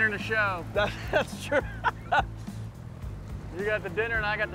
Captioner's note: chuckles